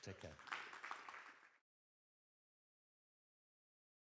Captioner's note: audience claps